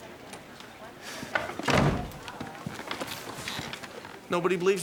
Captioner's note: door thudding